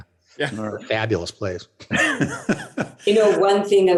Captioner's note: laughs